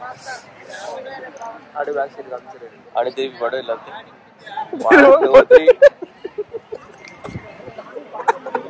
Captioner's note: laughs